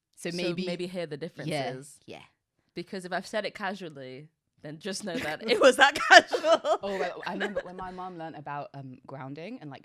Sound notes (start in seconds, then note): 5.2 laughing